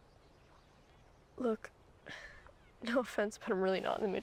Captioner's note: sighs